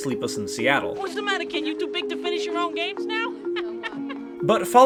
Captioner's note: laughs